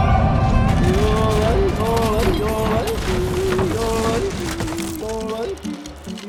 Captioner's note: model clatters